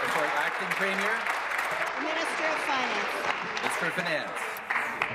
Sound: applause

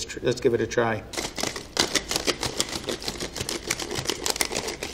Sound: egg crackling

